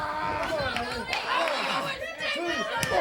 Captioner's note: crowd chatter